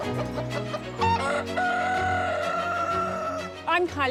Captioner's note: chickens cluck; rooster crows